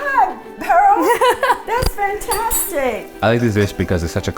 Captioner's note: laughs